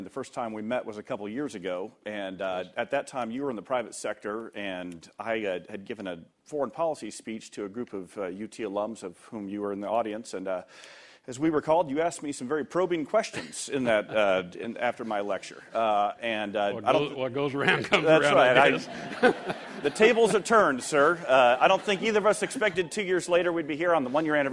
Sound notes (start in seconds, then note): 17.6 laughter